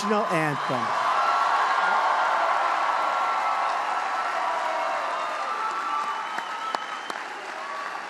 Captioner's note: applause